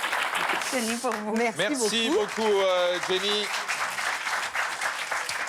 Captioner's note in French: applaudissements